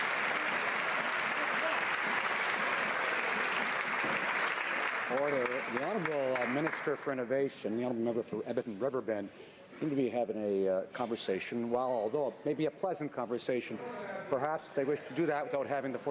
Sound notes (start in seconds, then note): 2.7 applause